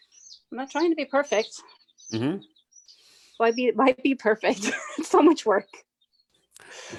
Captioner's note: chuckles